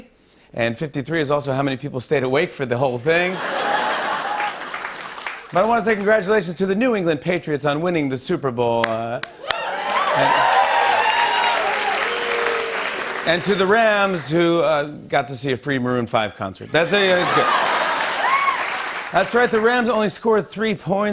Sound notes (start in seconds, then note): 3.3 laughter; 9.3 cheers and applause; 11.2 booing; 16.8 cheers and applause